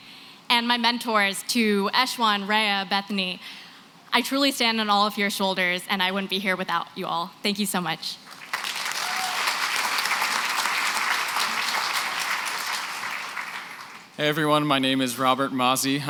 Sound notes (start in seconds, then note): 8.2 applause